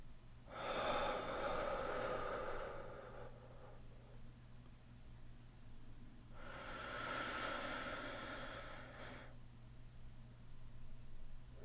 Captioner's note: deep calming breaths